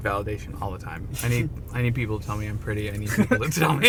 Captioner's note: both laughing